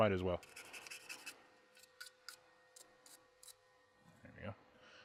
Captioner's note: brush scratches